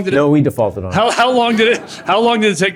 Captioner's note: laughter